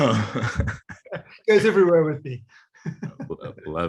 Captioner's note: laughs